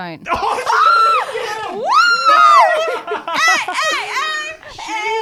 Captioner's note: screaming